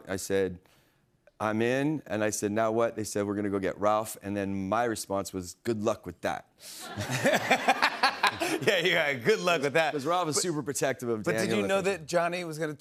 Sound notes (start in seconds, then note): 6.8 laughter